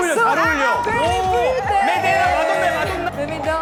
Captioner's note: wave through a strong wind